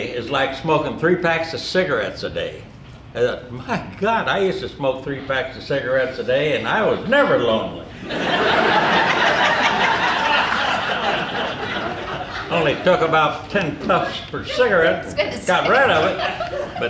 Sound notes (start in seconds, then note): 7.9 audience laughing